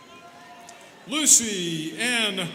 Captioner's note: students cheering